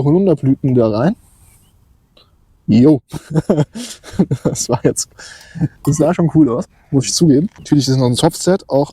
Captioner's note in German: gelächter